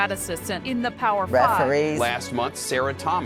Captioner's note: pat